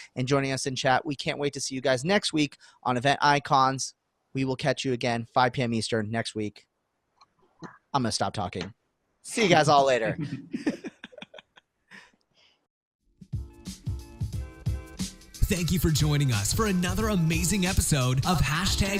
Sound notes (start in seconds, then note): 10.1 laughing; 13.2 light music